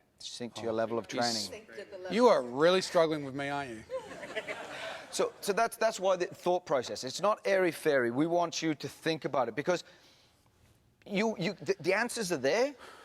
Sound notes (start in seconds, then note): 3.9 audience laughs